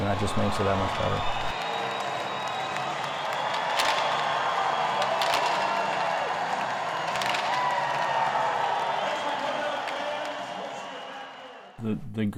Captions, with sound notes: And that just makes it that much better. [cheering]